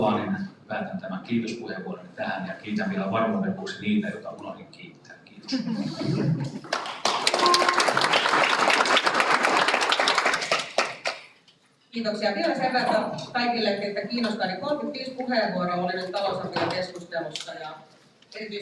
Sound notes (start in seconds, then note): 6.5 Aplodit